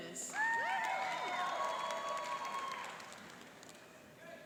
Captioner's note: cheering and applauding